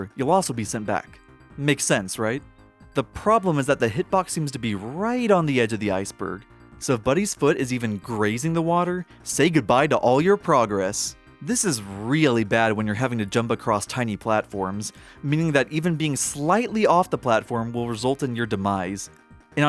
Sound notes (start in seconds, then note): none